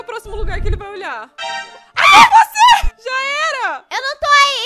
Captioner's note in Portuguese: grita